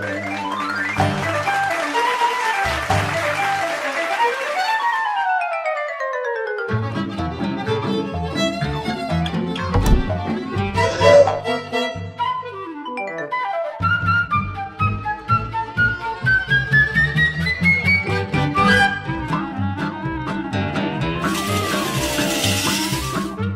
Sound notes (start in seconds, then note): 0.0 lively music; 0.0 applause; 5.1 lively music; 10.7 audience gasp; 11.7 lively music; 21.2 sliding noise